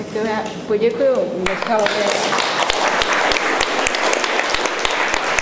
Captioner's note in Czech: potlesk